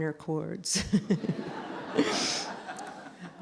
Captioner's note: laughter